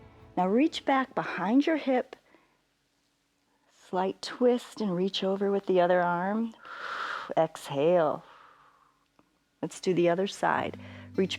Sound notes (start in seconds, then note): 8.3 exhales